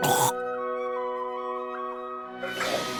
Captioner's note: gags